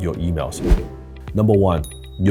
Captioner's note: whoosh